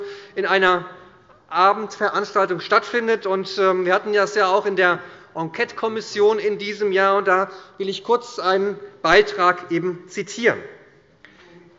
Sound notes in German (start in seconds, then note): none